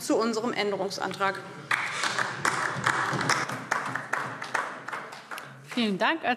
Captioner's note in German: Beifall DIE LINKE